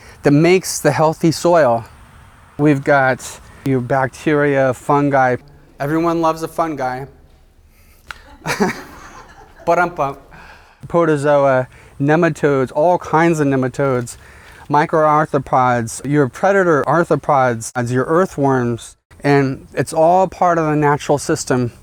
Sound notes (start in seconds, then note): 8.0 laugh